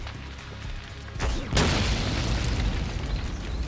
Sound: explosion

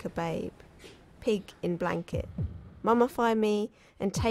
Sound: heartbeat sounds begin

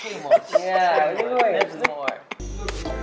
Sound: laughter; mood music

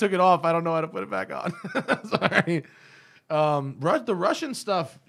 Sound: laughter

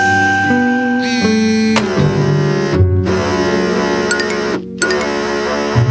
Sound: phone vibrating

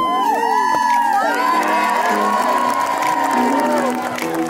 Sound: audience claps and cheers

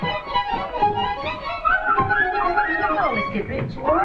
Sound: comical music; whistles

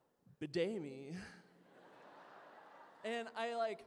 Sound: laughter

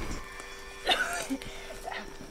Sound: coughs

